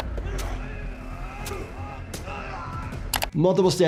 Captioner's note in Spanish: Los reclusos gruñen